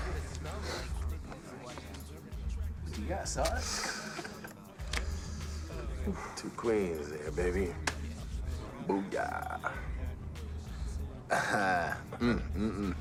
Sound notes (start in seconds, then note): 5.5 sighs; 11.3 laughs